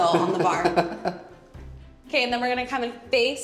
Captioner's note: laughing